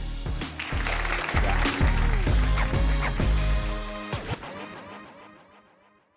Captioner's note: instrumental music; audience applauding